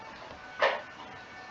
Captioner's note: bong